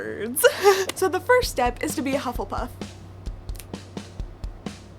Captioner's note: snaps fingers